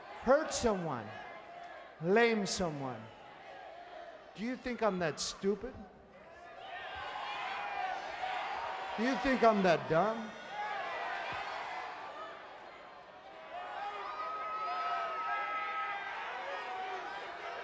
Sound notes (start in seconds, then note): 7.0 crowd vocalizing; 11.2 crowd vocalizing